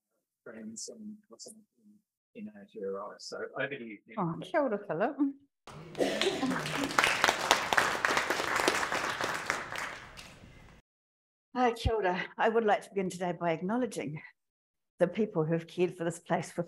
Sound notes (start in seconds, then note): 5.6 audience clapping